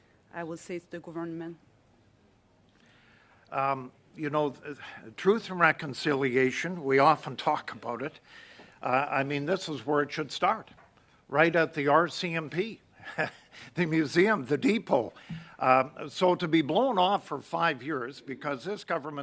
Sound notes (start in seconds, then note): 13.0 chuckling